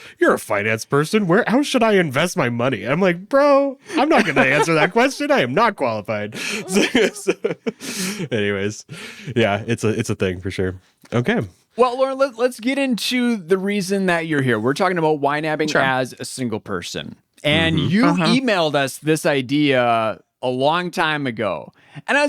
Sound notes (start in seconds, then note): 6.3 laughs